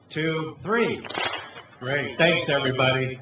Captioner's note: clap